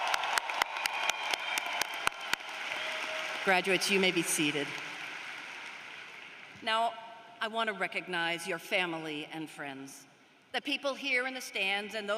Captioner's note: cheers and applause